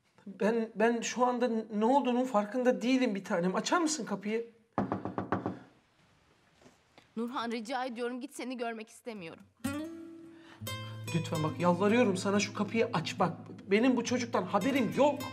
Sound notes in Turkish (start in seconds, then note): 4.8 Kapı tıklama sesi